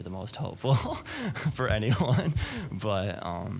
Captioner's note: laughing